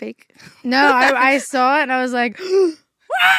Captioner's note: gasps